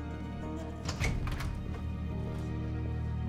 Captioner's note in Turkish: Kapı açılma sesi